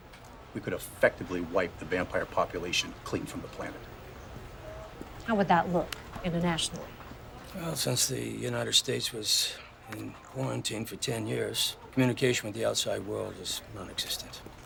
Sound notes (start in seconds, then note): none